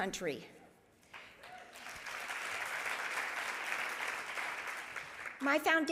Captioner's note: audience applauding